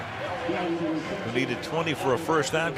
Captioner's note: pa announcement